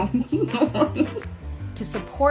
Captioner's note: laughing